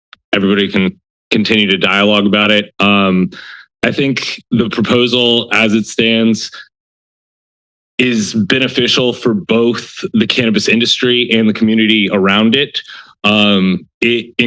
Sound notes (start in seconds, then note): 8.0 pause